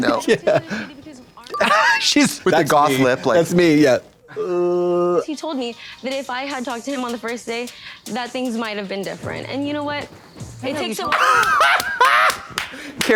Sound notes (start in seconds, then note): 1.5 Katya giggles; 4.4 Katya groans; 10.5 Trixie hoots; 11.8 Katya slaps